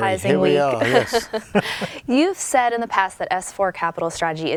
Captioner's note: laugh